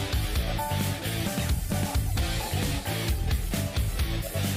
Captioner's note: sniff sniff